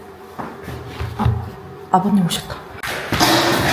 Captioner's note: knocking sound